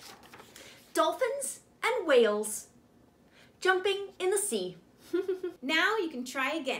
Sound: chuckles

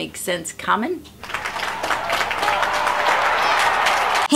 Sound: audience applauding

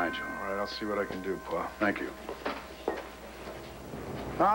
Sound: doorbell rings

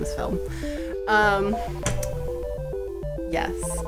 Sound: weird banging noise

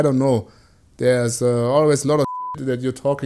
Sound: beeping

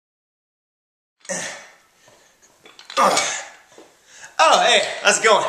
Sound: grunts of effort

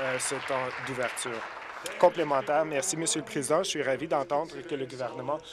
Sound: applause

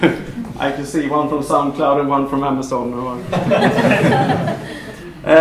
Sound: laughter; laughter

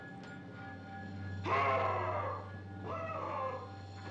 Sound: yelling

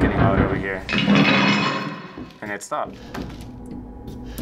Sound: loud clatter

